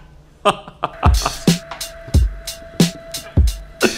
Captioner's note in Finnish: laugh